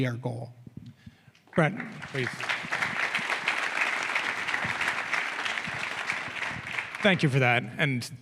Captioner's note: applause